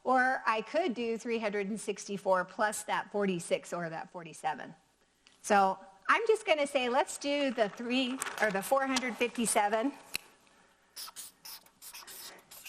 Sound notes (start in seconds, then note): none